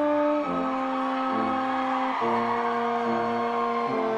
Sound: audience cheers

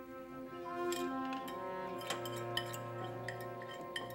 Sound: scraping dishes

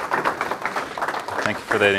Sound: audience applauding

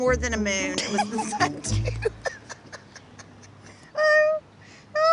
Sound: laughing

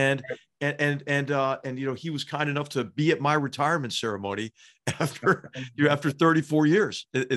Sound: laugh

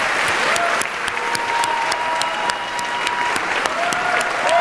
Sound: cheering, clapping

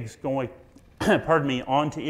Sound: coughs

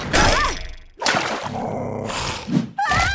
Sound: growling; screaming

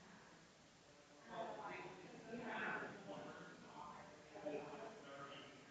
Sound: people chattering distantly continues

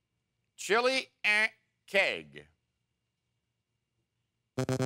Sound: buzzer sound

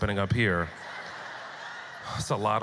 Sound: audience laughter

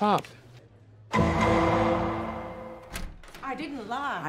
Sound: cell clanging

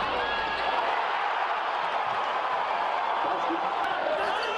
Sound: audience cheers

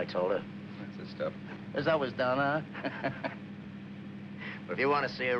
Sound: laughs

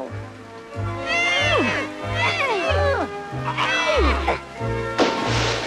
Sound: grunting

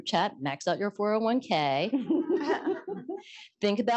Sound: laughter

